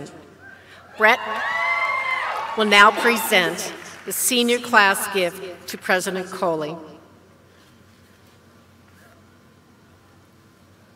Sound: applause

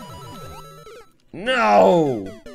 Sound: death audio

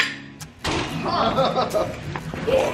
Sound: laughing

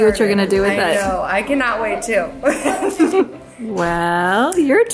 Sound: giggles

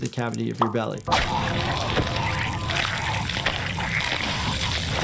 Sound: blood squelches

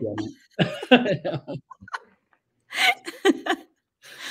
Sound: laugh

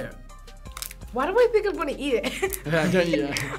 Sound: laughs

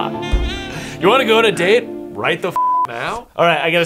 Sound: beep

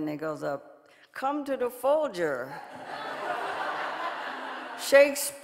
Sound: audience laughing

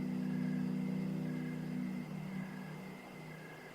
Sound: crickets chirping; distant riverboat horn

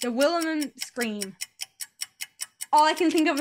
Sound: ticking nosies

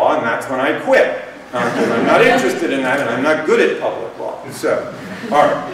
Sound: laughter

